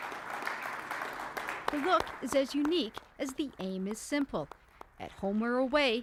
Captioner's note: applause